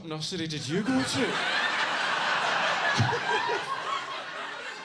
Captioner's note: audience laughing